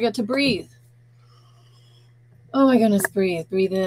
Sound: inhaling

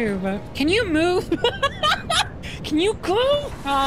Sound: laughter

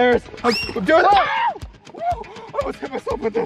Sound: screaming

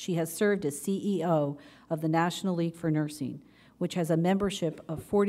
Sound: none

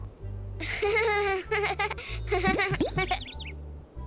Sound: laughing

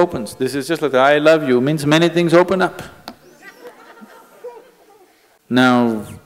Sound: laughter

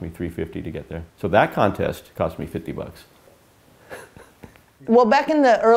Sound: laughs

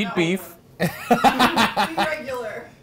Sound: Ryan laughs

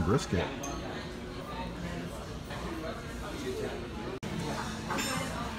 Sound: customer chatter

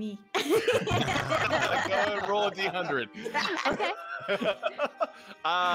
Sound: whole group laughing

